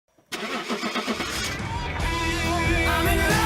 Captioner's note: engine starting